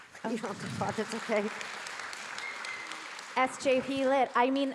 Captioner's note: audience clapping